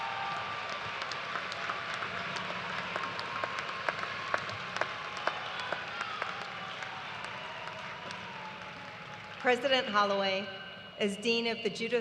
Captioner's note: cheers and applause